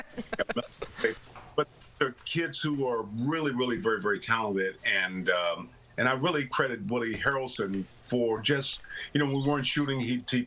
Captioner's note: laughter